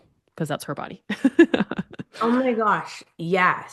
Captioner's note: laughs